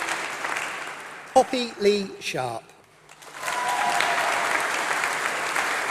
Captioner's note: applause